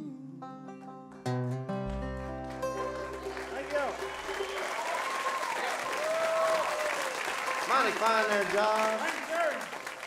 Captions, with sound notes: (audience cheers) - Thank y'all. - Mighty fine there, Jug. - Thank you.